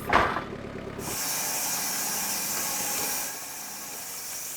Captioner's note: machine whirring